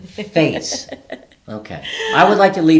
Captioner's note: laughing